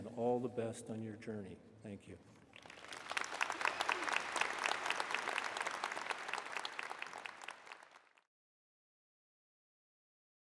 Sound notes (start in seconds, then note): 5.5 applause